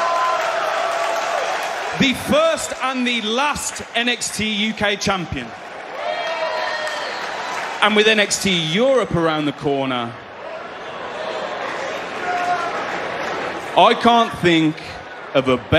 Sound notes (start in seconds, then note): 6.7 cheers